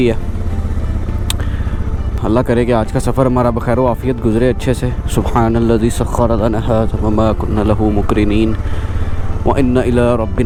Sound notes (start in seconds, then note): 6.8 reciting a short dua